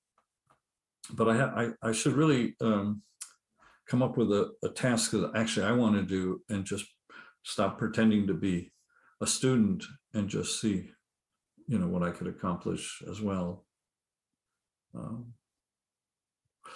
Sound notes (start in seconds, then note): none